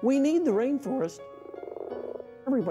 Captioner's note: frog croaks